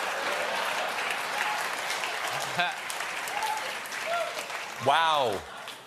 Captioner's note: applause; laughter